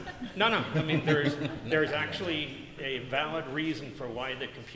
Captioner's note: laughter